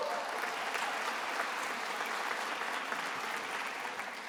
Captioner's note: attendees applauding